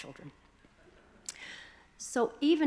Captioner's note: audience chuckling